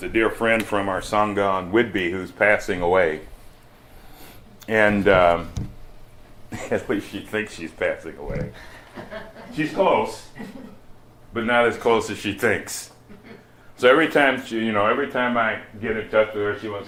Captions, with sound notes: with a dear friend from our sangha on Whitby, who's passing away, and, erm, (laughs) she thinks she's passing away. She's close, but not as close as she thinks, so every time she— you know, every time I get in touch with her,